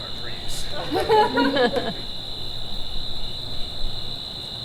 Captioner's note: audience laughs